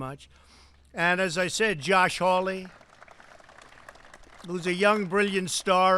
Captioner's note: applause